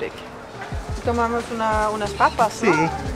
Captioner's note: in Spanish